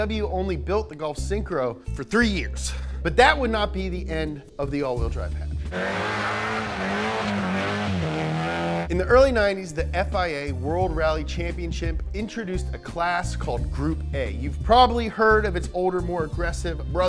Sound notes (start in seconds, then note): 5.6 engine revving